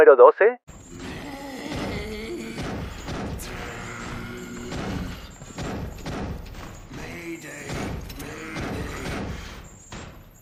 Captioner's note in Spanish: gemido